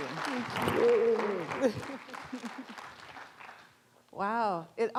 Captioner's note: applause